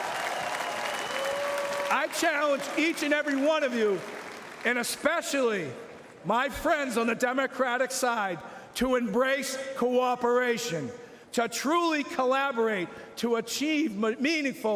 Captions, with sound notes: UNION AND NON-UNION. [ Cheering and Applause ] I CHALLENGE EACH AND EVERY ONE OF YOU AND ESPECIALLY MY FRIENDS ON THE DEMOCRATIC SIDE TO